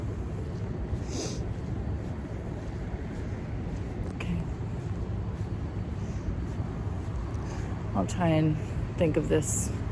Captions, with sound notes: *sniffles* Okay. I'll try and think of this...